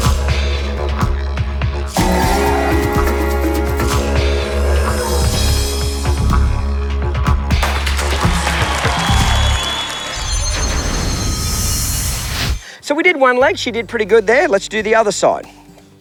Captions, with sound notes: (cheering) - So we did one leg, she did pretty good there. (gentle folk music) Let's do the other side.